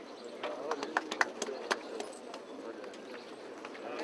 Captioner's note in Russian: аплодисменты